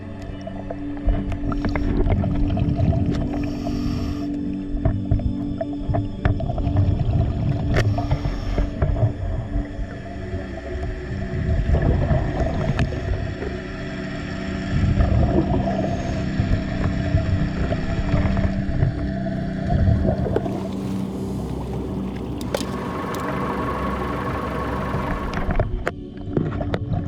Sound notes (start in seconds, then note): 0.2 underwater sounds continue; 15.3 underwater sounds continue; 23.0 boat engine humming